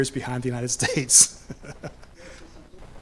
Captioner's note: laughs